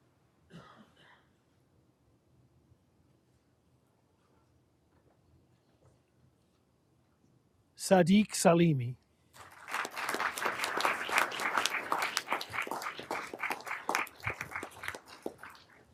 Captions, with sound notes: Sadiq Salimi. (everyone applauding)